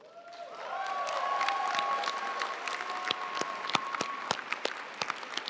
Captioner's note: audience cheering and applauding